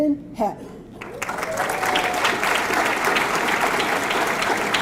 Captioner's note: audience clapping